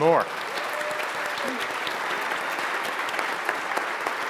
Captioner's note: audience applauds